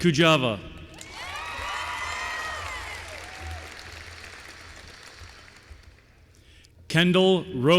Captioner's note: applause